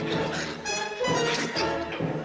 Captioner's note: laughing